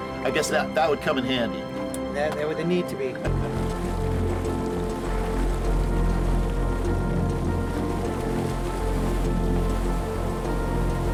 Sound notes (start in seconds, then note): 3.2 water splashing; 3.5 gentle orchestral music